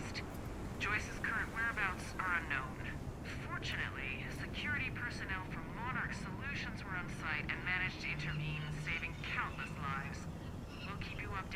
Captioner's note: on the radio